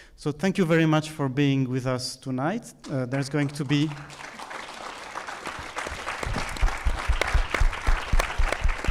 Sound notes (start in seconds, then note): 3.7 audience applauding